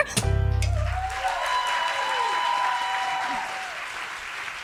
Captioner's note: applause